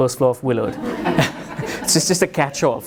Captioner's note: audience chuckles